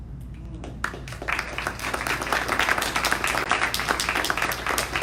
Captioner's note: audience applauding